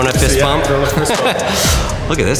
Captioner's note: host laughs